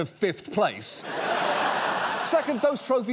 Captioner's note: audience laughs